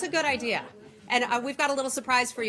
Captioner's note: laughter